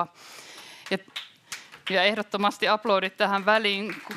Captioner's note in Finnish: Yleisö antaa aplodit